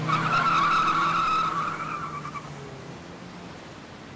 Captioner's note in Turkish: Araba sesi